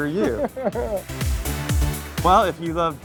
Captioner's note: laughing amusingly; upbeat music continues